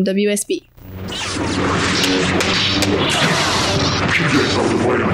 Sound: lightsaber sound effect; music under

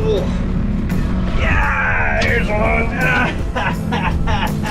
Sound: laughs

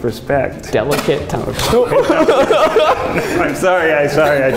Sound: laughs

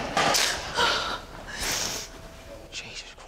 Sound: sniffles

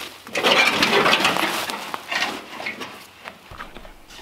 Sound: galvanize screeching

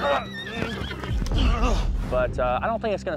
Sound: grunting

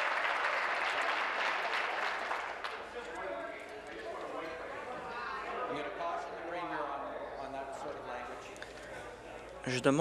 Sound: applause

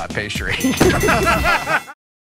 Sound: laughter

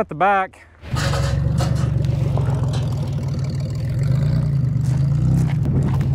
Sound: vehicle engine roaring

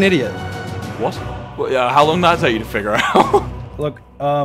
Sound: laughs

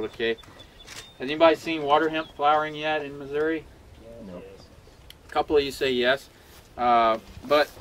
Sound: crowd murmuring

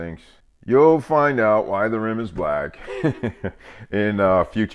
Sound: laughing

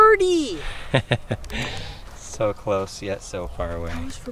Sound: laughing

